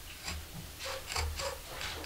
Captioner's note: soft rubbing